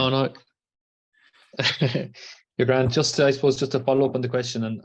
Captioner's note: laughs